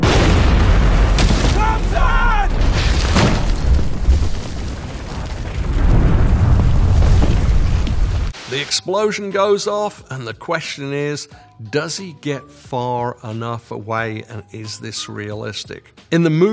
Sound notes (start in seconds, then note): 2.6 debris crunching; 2.6 explosion rumbling